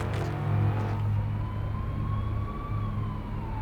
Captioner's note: sirens blaring